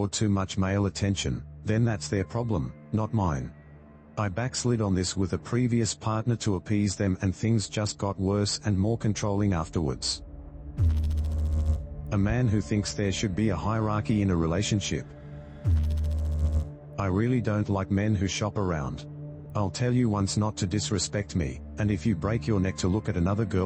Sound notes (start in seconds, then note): 10.8 electrical noise; 15.6 electrical noise